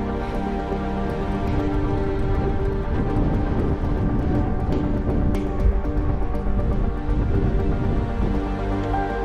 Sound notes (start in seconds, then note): 0.8 wind blowing violently